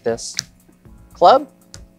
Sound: card slaps

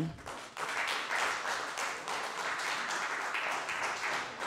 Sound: audience applause

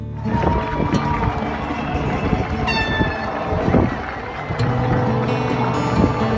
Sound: people cheering; horns blowing

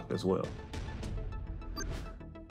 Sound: electronic beeps trill

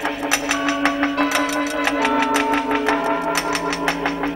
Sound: ticking and chiming

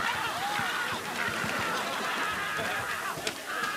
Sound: screaming

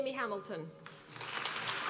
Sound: applause

